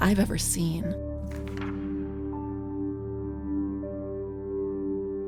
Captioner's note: page flipping